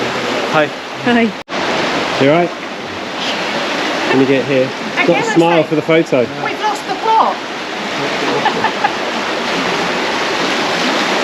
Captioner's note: laughs